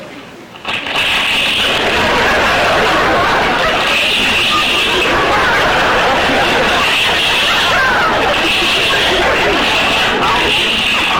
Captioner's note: loud crunching